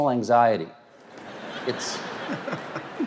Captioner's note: audience laughs